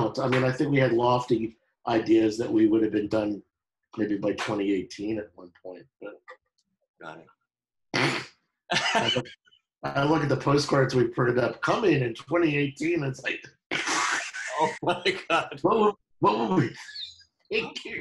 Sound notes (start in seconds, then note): 8.7 laughing; 13.7 laughing